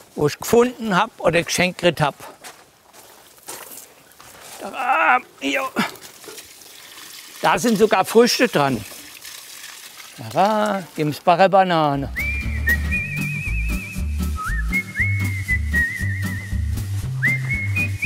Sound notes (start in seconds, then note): 4.6 strained moaning, splashing water; 12.1 cheerful, upbeat music